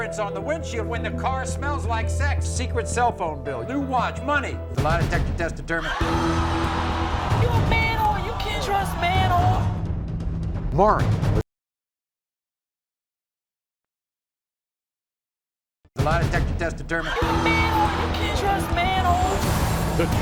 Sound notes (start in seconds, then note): 5.8 audience oohs; 17.0 audience oohs